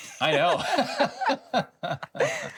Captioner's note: both laugh